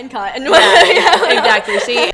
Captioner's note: laughs